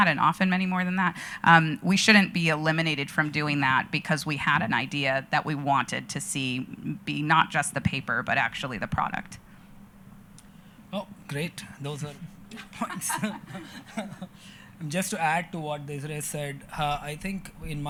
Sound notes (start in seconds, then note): 12.5 chuckling